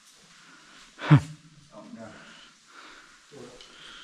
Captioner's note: nervous laugh